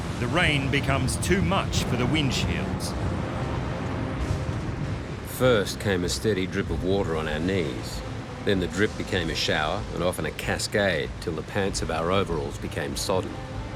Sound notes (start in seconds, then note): 2.8 storm raging